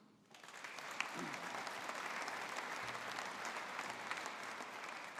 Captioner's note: audience applauding